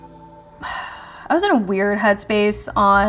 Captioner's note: Cara sighs